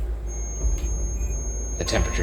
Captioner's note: REM pod beeping